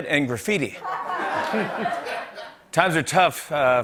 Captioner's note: laughter